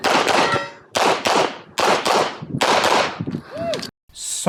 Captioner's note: gunshots banging continues; spectator whooping